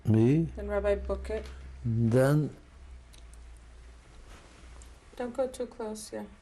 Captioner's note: pauses for 3 seconds